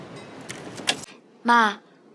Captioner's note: soft railroad noises; door clicks open loudly